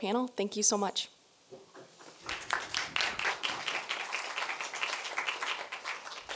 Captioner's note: applause